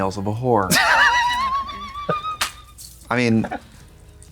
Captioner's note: Katya hisses